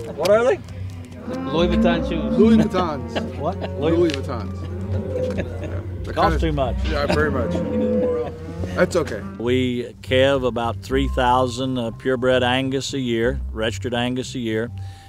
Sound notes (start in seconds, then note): 4.5 laughs